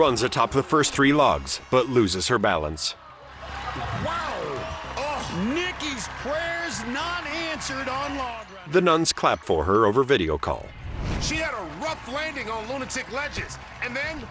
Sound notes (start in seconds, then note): 10.5 cheering